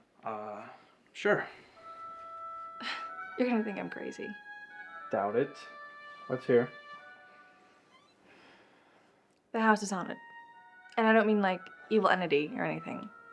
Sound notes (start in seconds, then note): 1.2 scoffs; 2.0 gentle music; 7.7 Danielle sighs